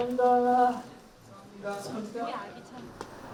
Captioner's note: tap tap tap